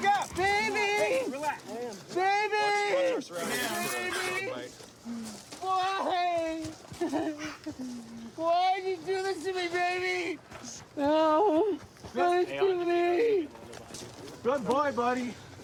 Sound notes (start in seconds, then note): 6.9 sobs